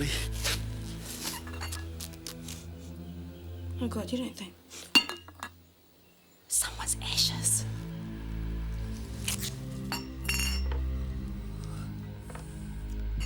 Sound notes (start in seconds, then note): 1.2 urn clinks; 2.2 Jodie sniffing; 4.9 urn clinks; 9.1 tape ripping; 9.9 urn clinks